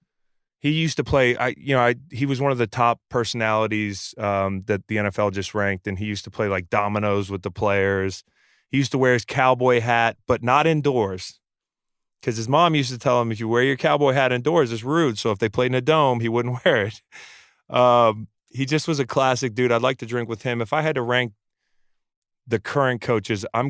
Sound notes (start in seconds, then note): 17.6 laughs